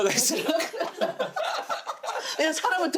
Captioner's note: laughing